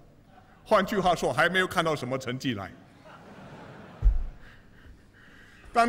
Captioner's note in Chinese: 笑声